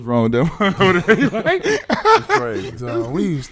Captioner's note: laughing